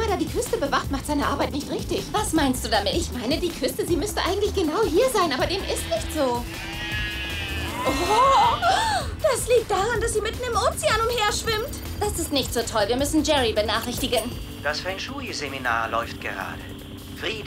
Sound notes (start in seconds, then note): 8.8 gasp